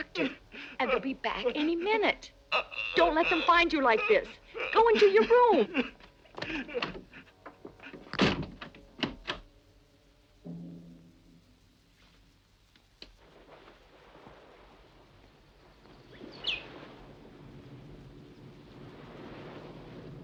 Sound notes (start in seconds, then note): 8.0 door bangs; 9.0 lock clicks; 13.1 wind blowing; 15.6 birds chirping